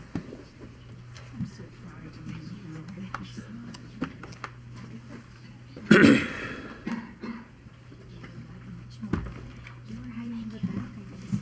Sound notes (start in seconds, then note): 5.8 coughing; 5.8 clears throat